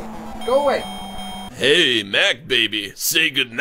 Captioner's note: goofy voice